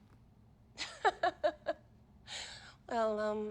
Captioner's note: laughs